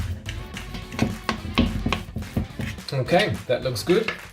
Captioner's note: tapping